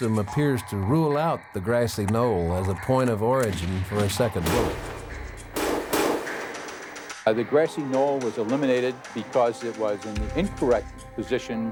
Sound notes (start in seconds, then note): 7.8 bullets booming